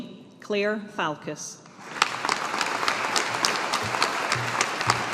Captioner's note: audience applauding